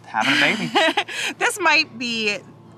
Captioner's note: chuckles